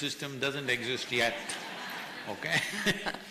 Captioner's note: laughter; laughs